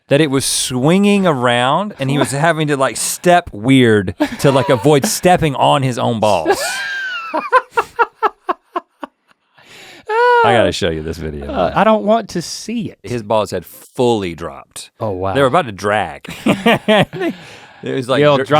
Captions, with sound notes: that it was swinging around and he was having to step weird to avoid stepping on his own balls. (laughing) I gotta show you this video. - I don't want to see it. - His balls had fully dropped. They were about to drag. (both laughing)